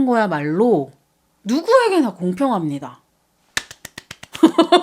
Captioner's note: applause